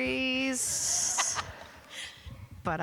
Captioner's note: laughter